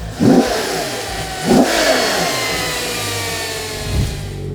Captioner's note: engine revs